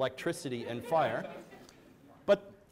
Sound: audience chuckles

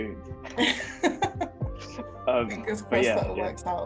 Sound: both laughing

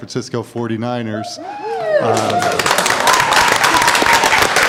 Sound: cheers and applause

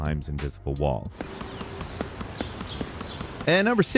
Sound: rushing footsteps

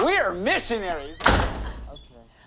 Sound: door slams

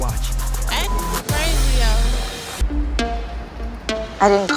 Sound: beep sound

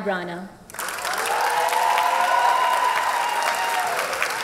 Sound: cheers and applause

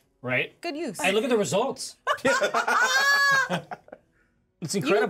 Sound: laughs

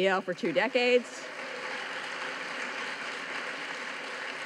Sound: audience claps

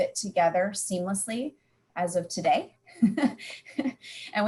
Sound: laughs

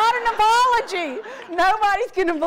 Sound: audience laughs

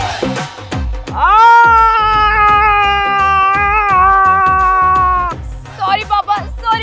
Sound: shouting

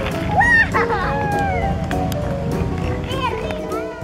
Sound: laugh

